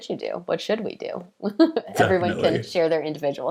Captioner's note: laughing